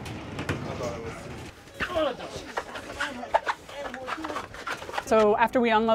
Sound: grunting and chattering

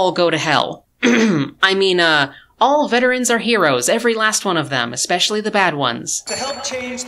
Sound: ahem

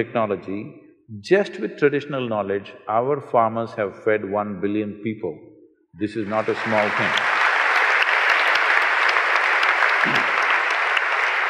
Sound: applause

